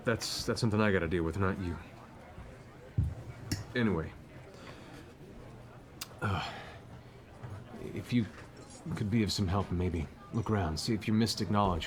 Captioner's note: sighs